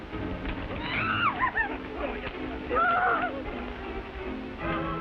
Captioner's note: Betty shouts